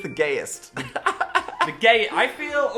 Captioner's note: laughing